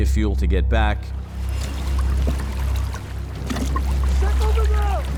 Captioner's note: water lightly lapping